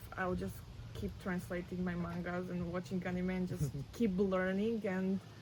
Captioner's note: laughs